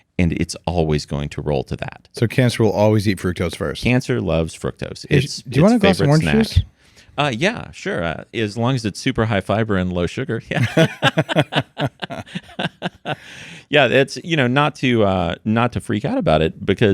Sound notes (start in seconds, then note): 10.6 both laughing